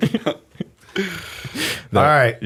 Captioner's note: laughter